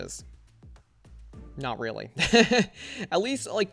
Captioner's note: laughs